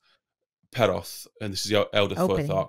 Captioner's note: speaking in foreign language